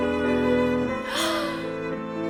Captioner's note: gasppp